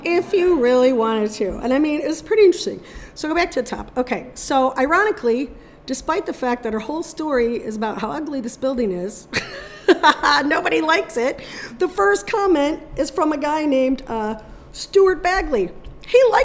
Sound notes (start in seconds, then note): 9.3 laughing